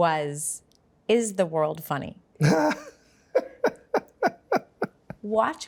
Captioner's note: Baratunde laughing